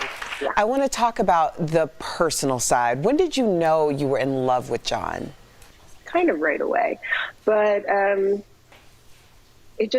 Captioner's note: applause